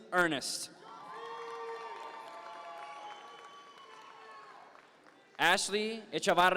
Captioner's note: audience members cheer